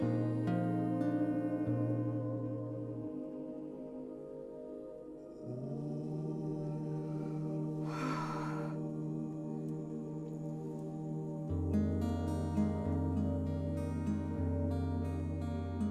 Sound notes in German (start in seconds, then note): 0.0 sanfte Gitarrenmusik; 7.8 atmet tief aus; 11.7 sanfte Gitarrenmusik